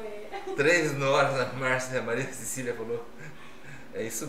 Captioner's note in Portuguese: risos